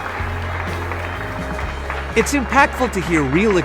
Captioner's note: applause